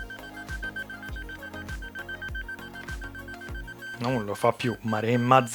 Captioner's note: beeping; speaking in foreign language